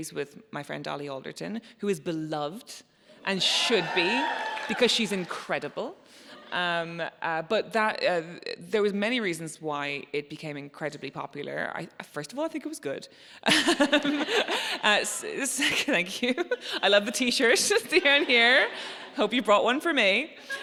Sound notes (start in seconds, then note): 3.4 audience cheering; 13.5 laughs